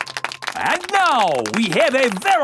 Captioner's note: applauding